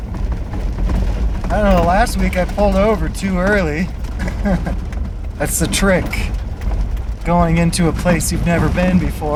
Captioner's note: laugh